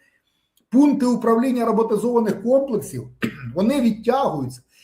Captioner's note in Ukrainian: прочищення горла